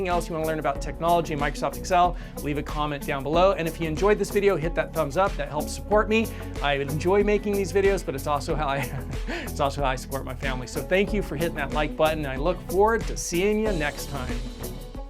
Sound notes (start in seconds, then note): 8.8 laughs